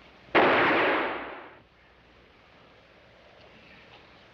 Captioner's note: gunshot bangs